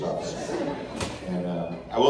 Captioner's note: laughter